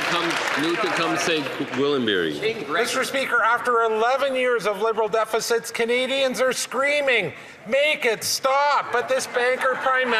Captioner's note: some Applause